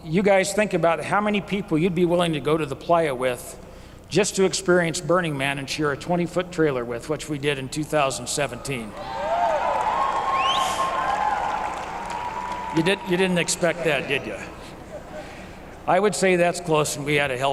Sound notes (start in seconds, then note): 9.0 applause